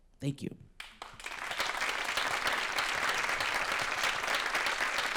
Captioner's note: applause